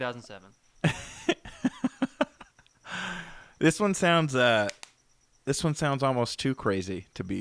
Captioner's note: laughter